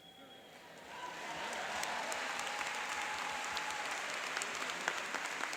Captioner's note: applauding and cheering